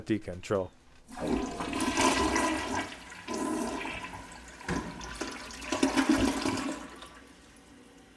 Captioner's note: water splashing